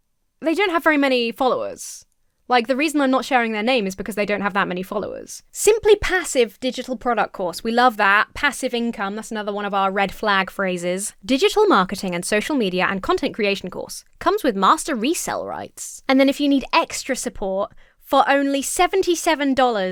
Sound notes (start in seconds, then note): none